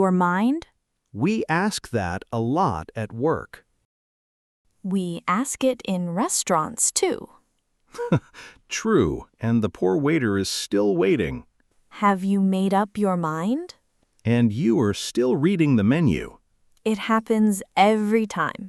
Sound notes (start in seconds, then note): 7.9 laughs